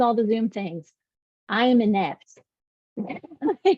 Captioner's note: laughs